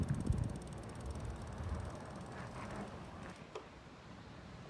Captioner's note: wind blowing